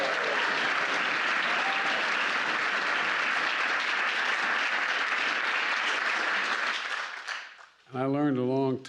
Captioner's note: applause